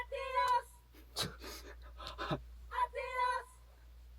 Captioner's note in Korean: 웃음 터진 멤버들